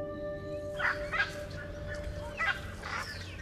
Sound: birds calling

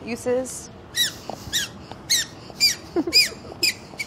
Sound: squeaking

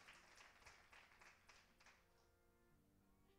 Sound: applause

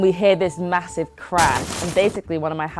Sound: crashing

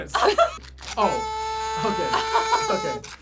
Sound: horn honks

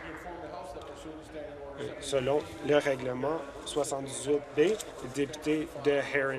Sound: applause

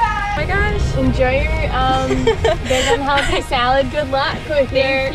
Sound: laughing

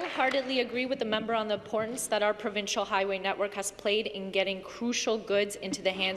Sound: applause

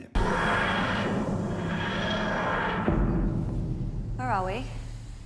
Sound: TARDIS whooshes

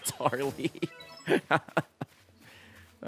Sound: laughs

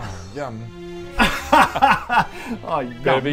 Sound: laughs in schadenfreude

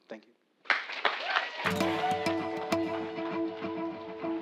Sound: applause

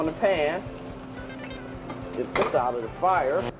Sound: sizzling sound

